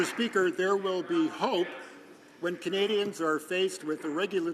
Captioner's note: some Applause